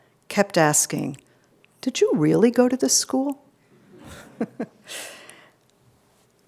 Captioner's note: chuckles